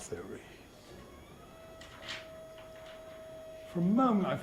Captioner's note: machine begins whirring next door